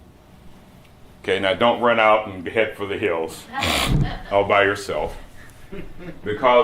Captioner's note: laughter